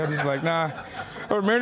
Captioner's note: laughing